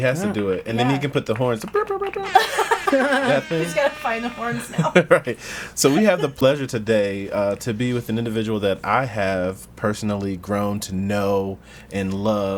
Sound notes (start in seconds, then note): 2.2 all laugh